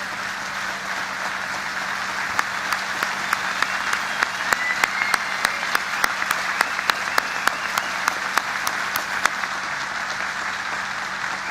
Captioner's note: applause